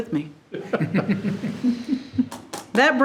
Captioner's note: group chuckling